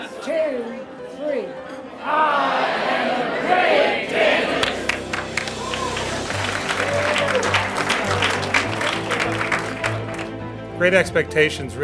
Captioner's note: applause